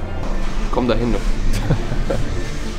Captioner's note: laughs